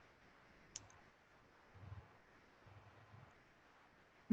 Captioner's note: clicking